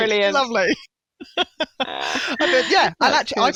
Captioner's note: laughter